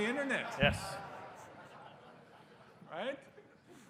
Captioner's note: laughter